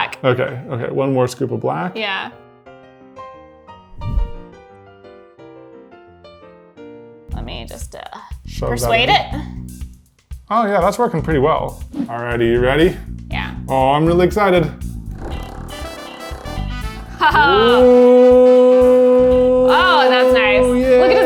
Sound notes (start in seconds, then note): 3.0 piano music; 9.4 funky music; 14.8 nail polish vibrating